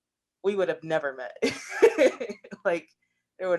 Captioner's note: laughs